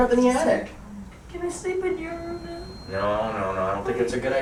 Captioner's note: voice breaking